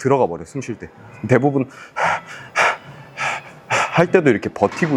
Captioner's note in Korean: 숨을 헐떡임